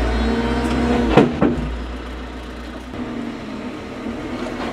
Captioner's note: log thudding